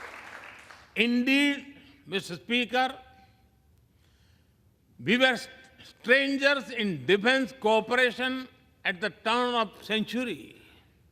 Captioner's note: applause